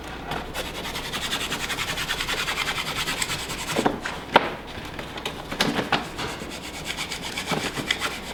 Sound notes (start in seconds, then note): 0.5 credit card scratching